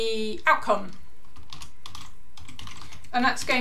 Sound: keyboard clicking

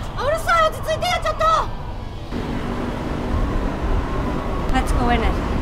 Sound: Chun Ji speaking in a foreign language

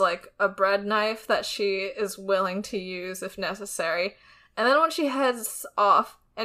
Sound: none

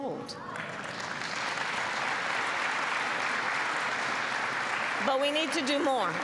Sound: applause

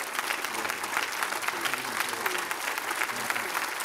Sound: applause

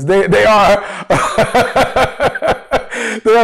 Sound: laughs

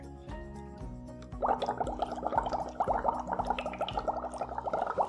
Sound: water bubbling

